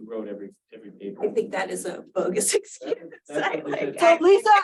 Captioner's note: laughs